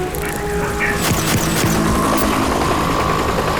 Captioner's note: helicopter flies overhead